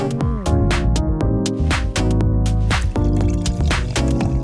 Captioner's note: upeat music; bubbling